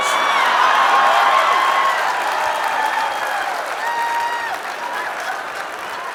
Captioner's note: audience cheering and clapping